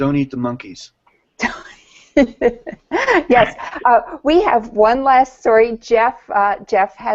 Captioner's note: laughing